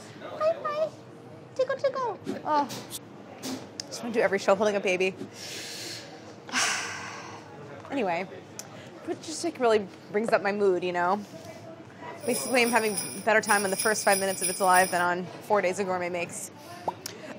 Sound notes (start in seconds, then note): 6.5 sighs